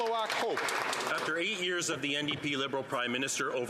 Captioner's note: some Applause